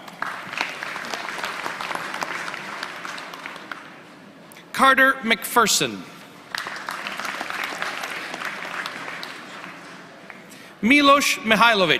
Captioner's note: applause